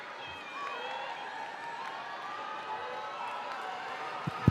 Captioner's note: crowd cheering